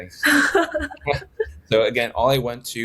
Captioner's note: chuckles